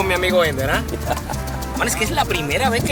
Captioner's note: Ender laughs